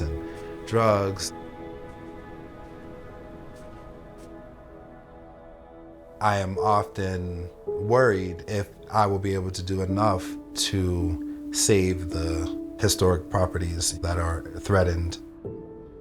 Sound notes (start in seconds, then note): 1.4 footsteps in snow